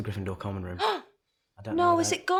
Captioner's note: rowling gasps